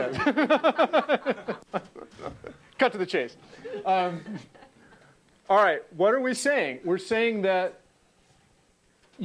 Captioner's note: laugh